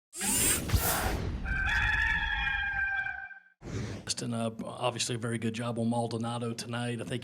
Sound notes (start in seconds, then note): 0.2 air swooshing; 1.4 cock crowing